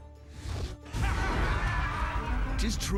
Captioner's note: cackling